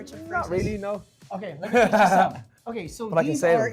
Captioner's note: laughs